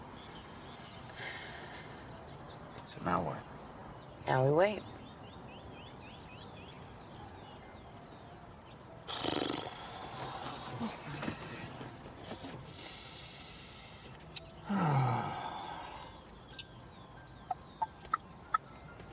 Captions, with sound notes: [sighs] So now what? Now we wait. [blows raspberry] [sighs] [clicks tongue]